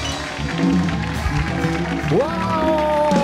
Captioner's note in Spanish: Aplausos